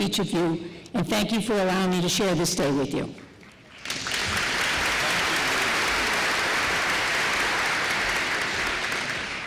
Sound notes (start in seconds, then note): 3.2 applause